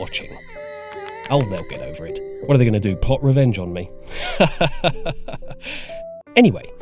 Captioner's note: awkard laughter